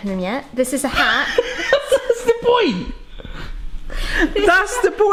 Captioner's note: laughs